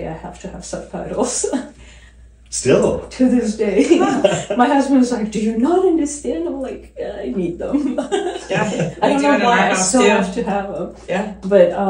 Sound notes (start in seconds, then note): 7.6 laughing